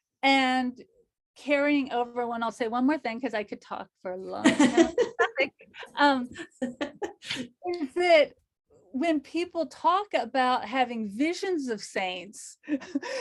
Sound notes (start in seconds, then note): 6.4 chuckles